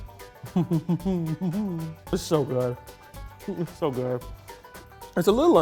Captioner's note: chuckles